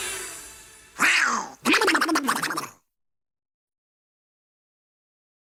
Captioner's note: Donald Duck squawking